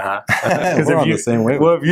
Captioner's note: both chuckle